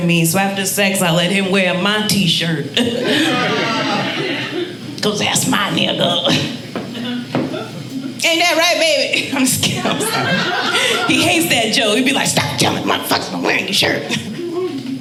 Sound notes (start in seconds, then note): 2.8 audience laughing; 9.2 audience laughing